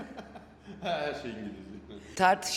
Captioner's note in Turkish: kahkaha